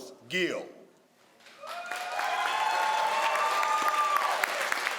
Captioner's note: crowd applauds